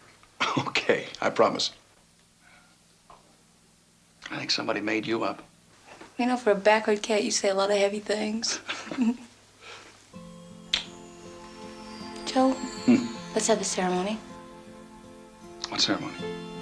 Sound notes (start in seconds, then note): 8.5 Ginger chuckles; 8.6 Joe chuckles